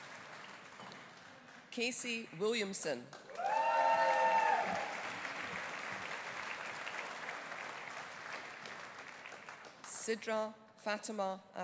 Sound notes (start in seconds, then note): 3.2 audience applauding; 3.3 audience cheering